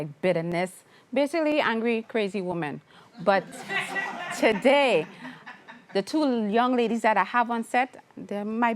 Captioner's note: laughter